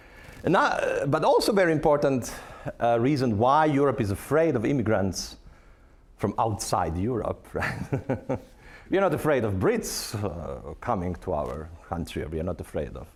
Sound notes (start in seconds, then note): 8.0 laughing